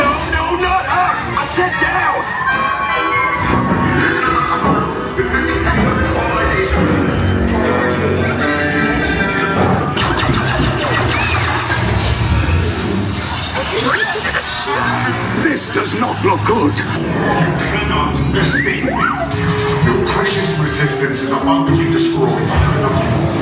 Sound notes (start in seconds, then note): 10.3 blasters pew-pewing; 10.3 droids beeping and buzzing; 23.1 music continues